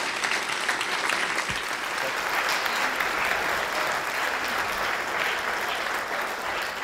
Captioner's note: applause